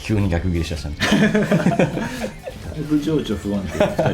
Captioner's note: laughs